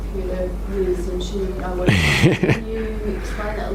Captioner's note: laughs